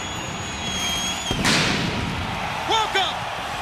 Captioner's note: crowd cheering